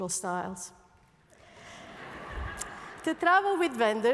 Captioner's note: laughter